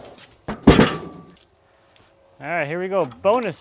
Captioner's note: wood falling onto metal